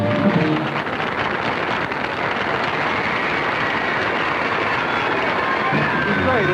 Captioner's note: cheering and applause